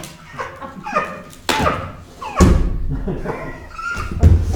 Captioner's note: Corin laughing